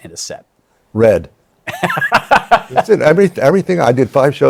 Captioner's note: laughs